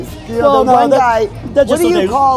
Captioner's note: murmurs